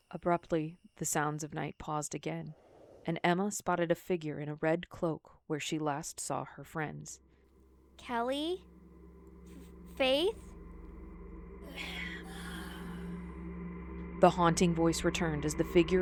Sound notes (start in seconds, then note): 11.7 ghosyl voice; 15.5 eerie music